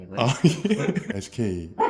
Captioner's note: haha